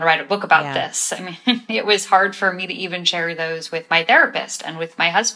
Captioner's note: laughter